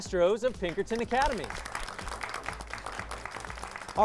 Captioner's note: applause